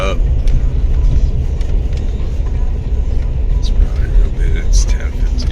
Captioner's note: radio